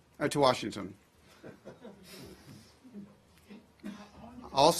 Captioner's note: laughter